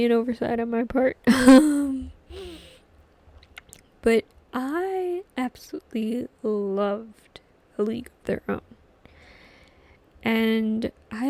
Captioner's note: laughs